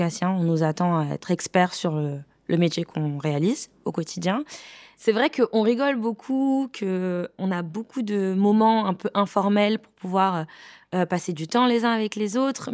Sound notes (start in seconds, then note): none